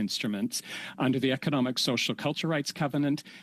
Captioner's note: speaking French